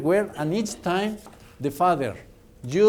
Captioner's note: none